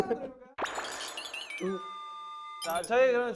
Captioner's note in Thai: ฮาแตก